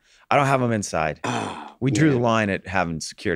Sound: Rob huffs

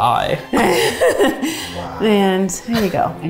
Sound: laughs

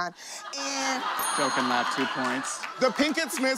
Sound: laughter

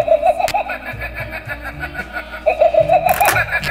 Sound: shark laughs

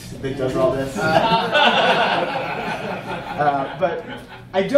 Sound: audience laughing

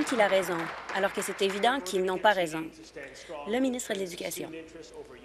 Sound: applause

